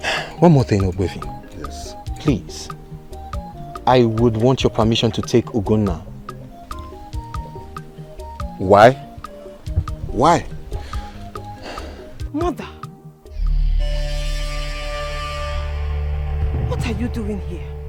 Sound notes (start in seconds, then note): 10.5 snorts